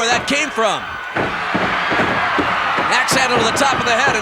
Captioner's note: audience cheering